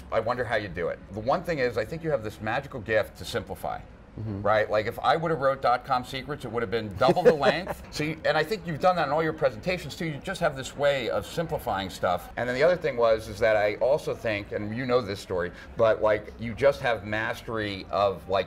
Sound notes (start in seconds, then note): 7.0 laughter